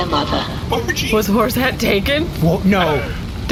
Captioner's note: terrified